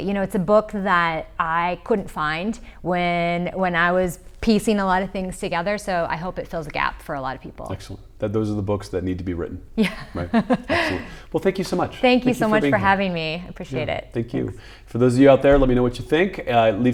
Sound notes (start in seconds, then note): 9.8 laughs